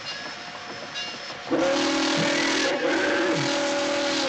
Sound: whistle Blows

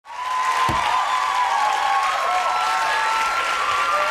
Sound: crowd cheering

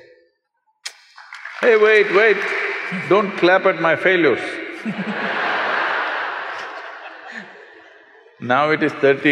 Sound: applause; laughter

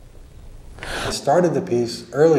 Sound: man takes a breath

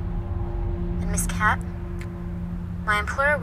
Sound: woman on phone

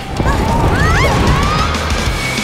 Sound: screams

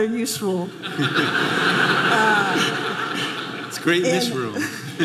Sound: audience laughing

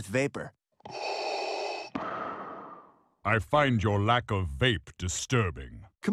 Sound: amplified inhale, exhale

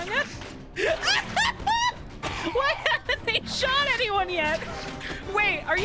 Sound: laughing; laughing

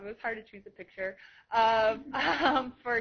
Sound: laughter

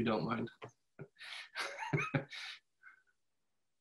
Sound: laughs

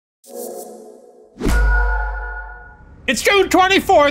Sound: logo whooshing

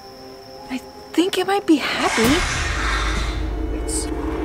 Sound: roaring

